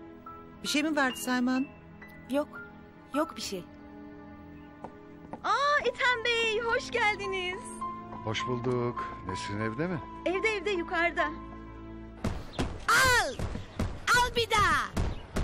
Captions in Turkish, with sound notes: Bir şey mi vardı Selma Hanım? Yok. Yok bir şey. Aaa Etem Bey, hoş geldiniz. Hoş bulduk. Nesrin evde mi? Evde evde yukarıda. [Halıya vurma sesi] Al. Al bir daha.